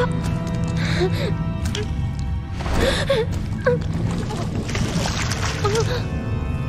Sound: in-game audio

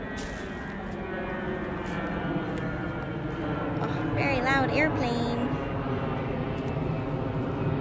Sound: airplane noise

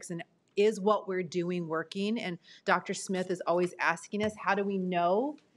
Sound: none

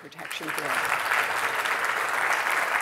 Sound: applause

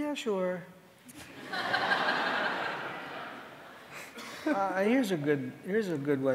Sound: audience laughing

